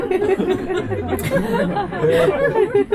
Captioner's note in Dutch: verder gelach